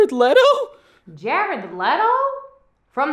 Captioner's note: female voice